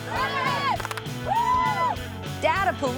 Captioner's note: clap, yells